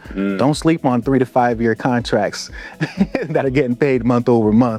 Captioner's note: laughs